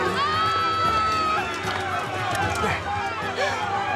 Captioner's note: yelling